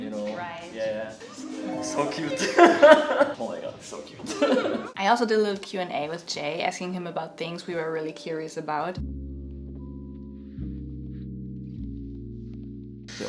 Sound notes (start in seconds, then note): 2.9 laughing; 10.6 lo-fi music